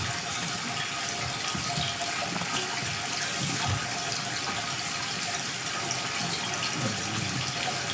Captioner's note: water trickling continues